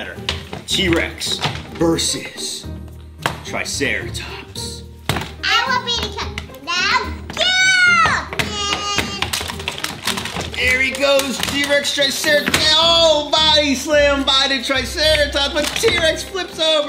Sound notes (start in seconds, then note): 8.0 toys crash together